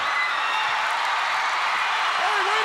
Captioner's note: crowd cheering